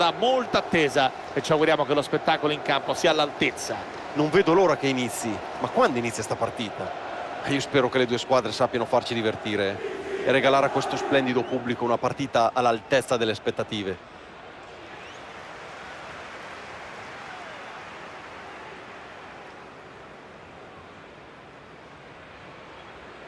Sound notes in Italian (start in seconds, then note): 14.8 Applauso